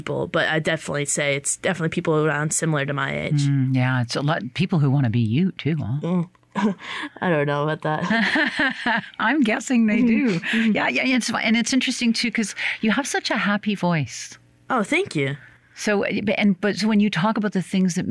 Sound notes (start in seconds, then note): 8.0 chuckles; 8.0 laughs